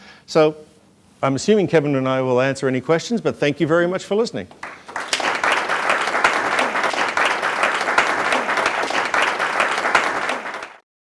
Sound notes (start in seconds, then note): 4.5 applause